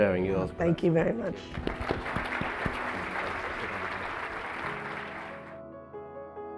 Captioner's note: audience clapping; upbeat music